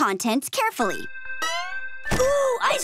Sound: chiming

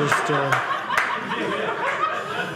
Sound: audience laughing

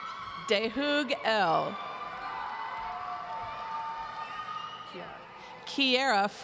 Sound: audience cheering

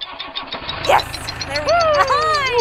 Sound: engine starting

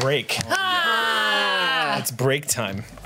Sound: moans

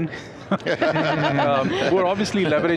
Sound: all laughing

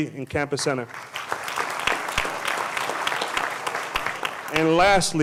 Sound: applause

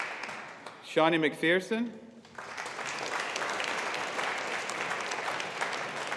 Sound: audience applauding

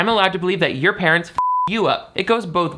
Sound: beep

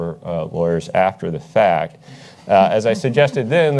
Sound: panelists chuckle

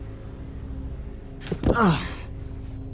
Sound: Hero Grunts

